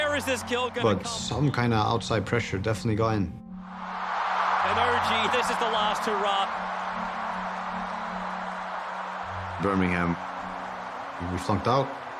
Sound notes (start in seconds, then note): 6.8 crowd cheering